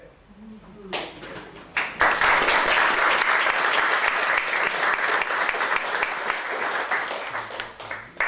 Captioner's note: audience applauding